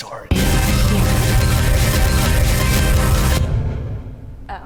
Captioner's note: radio statics